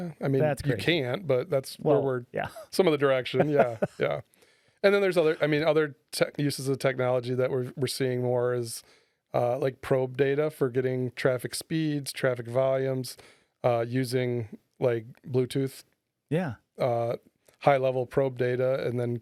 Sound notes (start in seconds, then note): 3.3 laughing